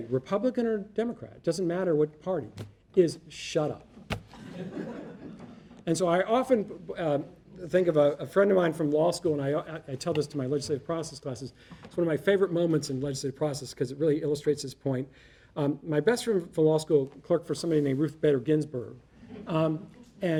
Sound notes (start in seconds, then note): 4.4 audience laughing